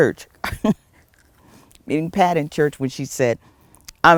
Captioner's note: laugh